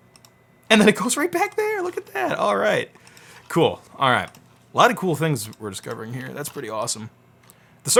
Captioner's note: none